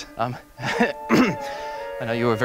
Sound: clears throat

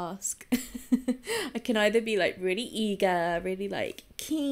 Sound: giggles

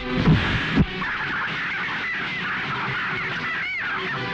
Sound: hens cackling

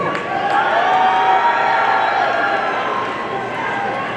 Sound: audience cheering

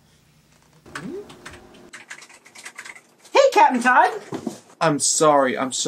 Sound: door opening

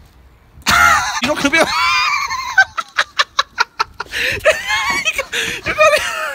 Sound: laughing

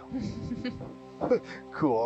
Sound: researcher 1 chuckles

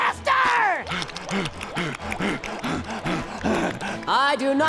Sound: panting

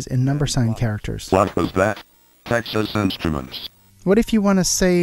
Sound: computer voice

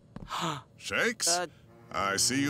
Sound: gasping

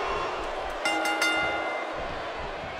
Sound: starting bell dings

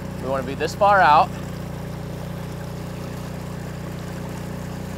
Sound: boat motor roaring

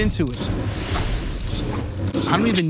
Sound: air whooshes

